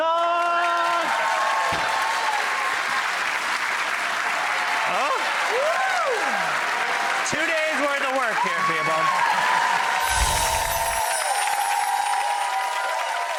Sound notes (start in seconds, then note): 0.2 audience claps and cheers; 10.0 magical swoosh